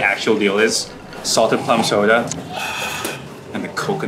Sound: sighs

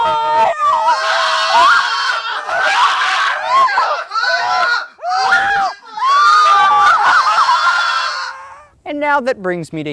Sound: screaming

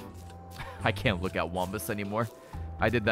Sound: laughs

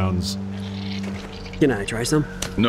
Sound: juicy munch

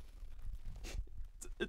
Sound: sniff

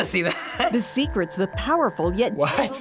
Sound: voice-over

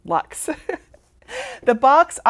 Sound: laughs

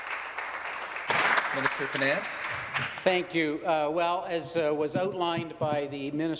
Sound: applause

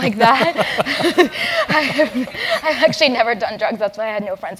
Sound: laugh

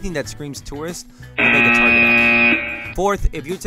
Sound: buzzing

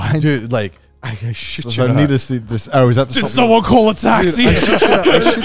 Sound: group chattering

